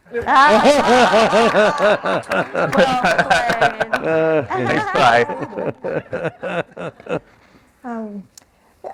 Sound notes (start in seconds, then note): 0.1 laughter, applause; 3.5 laughter; 5.5 laughter